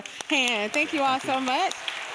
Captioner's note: people clapping